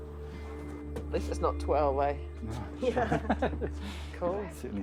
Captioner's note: laughs